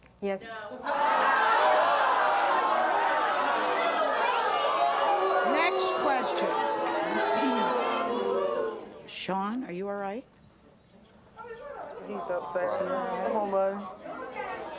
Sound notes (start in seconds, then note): 0.8 audience clamors; 5.2 audience boos